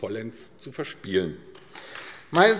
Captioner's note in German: Beifall AfD